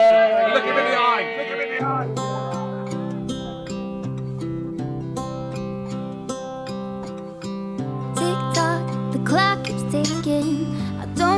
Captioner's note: celebrational shrieks